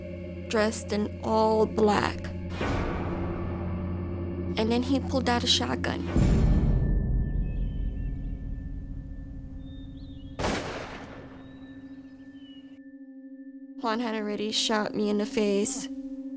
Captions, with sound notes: dressed in all black. [suspenseful music plays] And then he pulled out a shotgun. [birds singing] [gunshot] Juan had already shot me in the face...